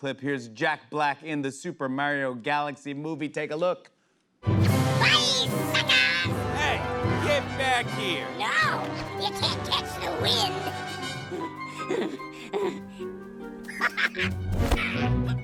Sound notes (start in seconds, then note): 11.0 gasping loudly; 13.5 laughs